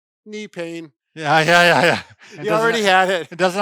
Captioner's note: laughs